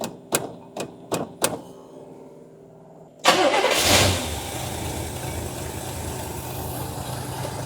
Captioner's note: engine Revving